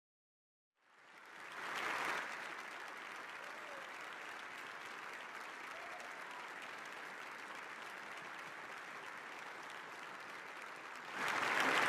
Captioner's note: applause